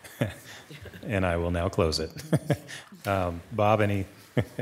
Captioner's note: laughs